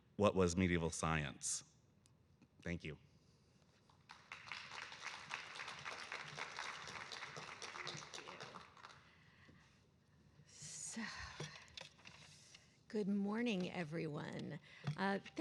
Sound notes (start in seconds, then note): 4.0 audience applauding